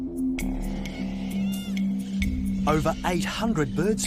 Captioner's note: birds screeching